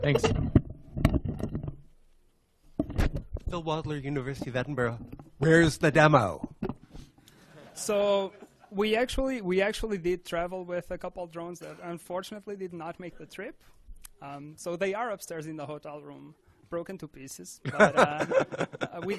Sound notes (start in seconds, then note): 7.5 audience laughs; 17.7 laughs